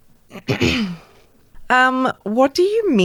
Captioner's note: clears throat